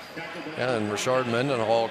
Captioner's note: pa announcement